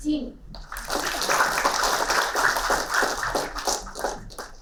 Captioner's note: applauding